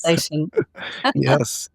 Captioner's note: laughing